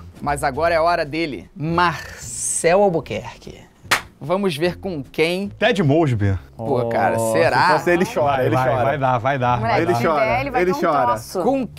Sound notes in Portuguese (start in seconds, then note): 3.9 som de palma